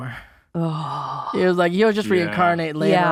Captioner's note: gasps